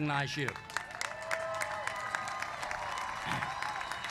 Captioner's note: applause